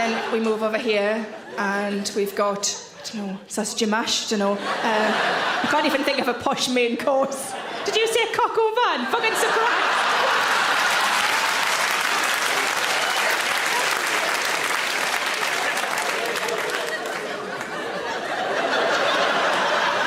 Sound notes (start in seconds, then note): 10.8 audience laugh and clap; 16.8 audience laughing